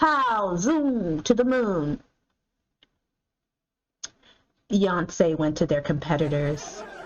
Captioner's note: audience laughter; drum roll